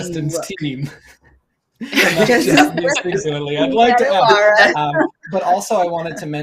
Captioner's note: laughs